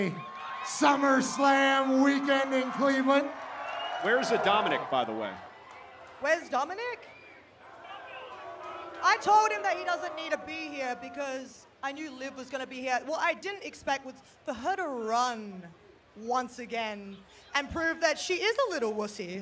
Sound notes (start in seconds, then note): 6.0 cheering